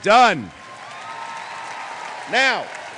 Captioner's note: applause